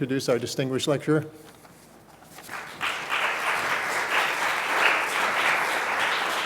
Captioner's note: applause